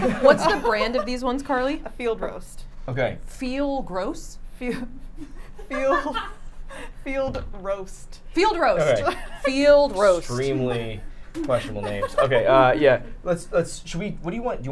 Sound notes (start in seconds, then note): 5.1 laughs; 5.1 woman laughing